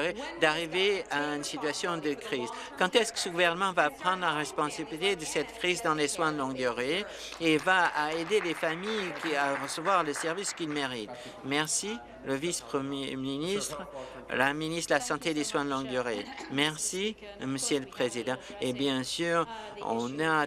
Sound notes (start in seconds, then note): 11.3 applause